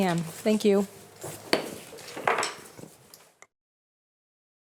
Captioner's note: gavel bangs